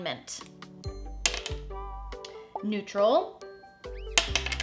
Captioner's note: die clacks; die clacks